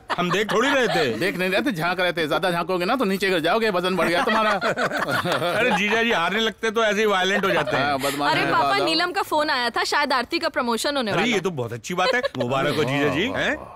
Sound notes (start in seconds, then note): 4.0 Laughs